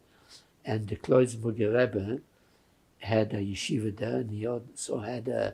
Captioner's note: yiddish